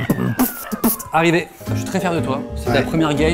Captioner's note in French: beatbox